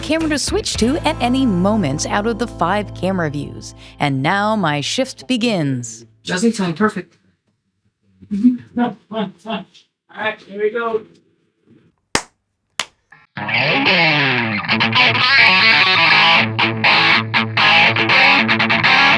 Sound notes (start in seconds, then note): 8.7 laughter